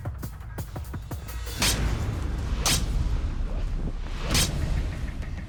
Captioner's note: chopping